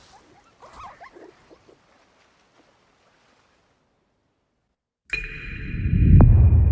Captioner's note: rustling on beach